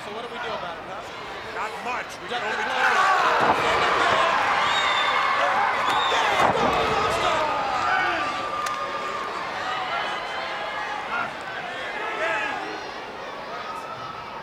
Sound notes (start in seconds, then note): 4.9 body thudding; 5.7 blows thudding; 7.0 footsteps plodding